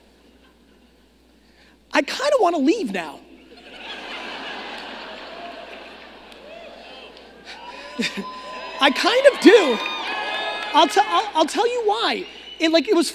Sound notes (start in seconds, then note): 3.4 audience laughing; 8.2 audience cheering